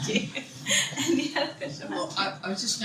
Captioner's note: laughing